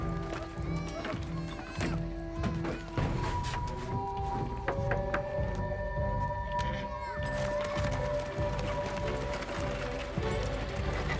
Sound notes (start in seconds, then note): 4.9 officer knocks on wagon